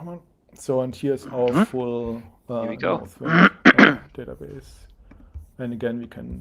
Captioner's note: clearing throat